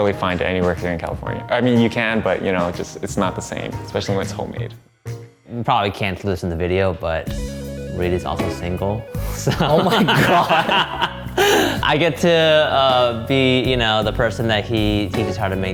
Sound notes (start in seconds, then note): 9.4 laughing